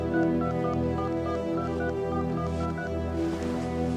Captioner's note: phone dial beeping